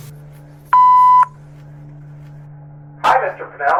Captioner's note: answer machine beeps